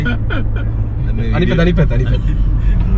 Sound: laughing

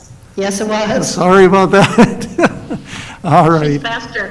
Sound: laughung

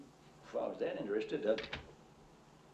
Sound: door opens

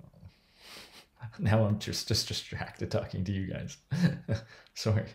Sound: chuckles

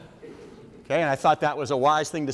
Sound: audience members laugh

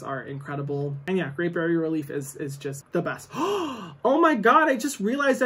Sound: gasps

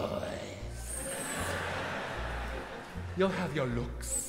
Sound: audience laughing

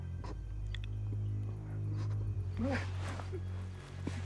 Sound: sobbing

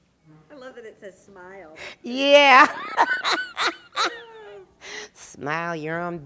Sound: laughter

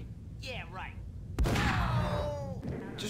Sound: gunshot, Badguy #2 dies

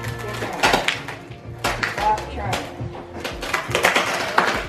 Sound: beams cracking

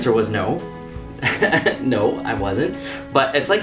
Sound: laughing

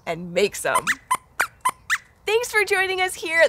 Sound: squeaks squeaks

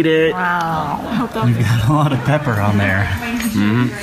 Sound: laughing

